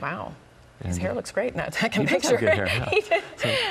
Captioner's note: chuckles